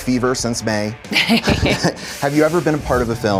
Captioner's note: chuckles